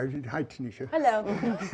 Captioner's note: laughing